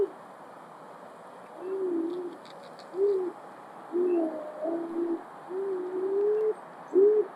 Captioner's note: sound of beavers vocalizing